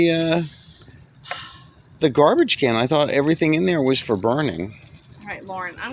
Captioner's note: breathes heavy